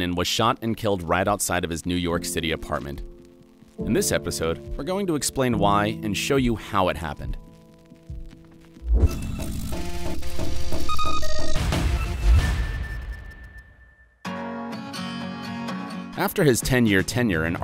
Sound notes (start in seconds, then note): 8.7 electricity buzzing; 9.1 bright music; 14.2 gentle guitar music